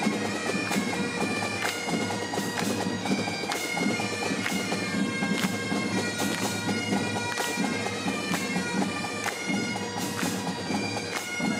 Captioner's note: clapping